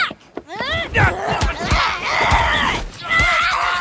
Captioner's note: both grunting, hollering